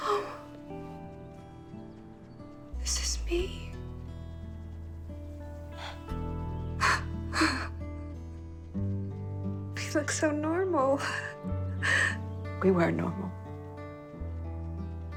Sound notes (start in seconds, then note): 7.3 chuckles